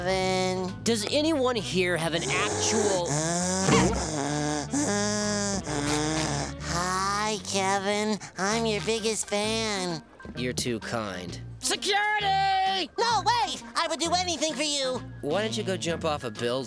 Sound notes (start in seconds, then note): 2.2 breathing heavily